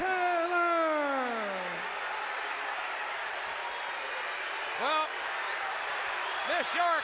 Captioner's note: applause